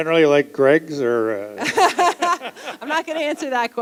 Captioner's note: laughter